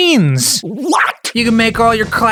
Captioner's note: with incredible distortion